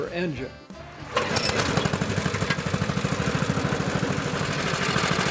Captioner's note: mechanical whirring